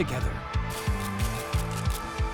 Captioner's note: camera clicking